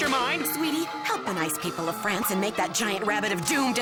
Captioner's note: chanting